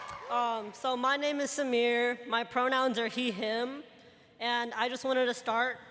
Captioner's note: cheers and applause